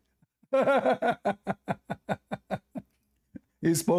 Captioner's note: Ketawa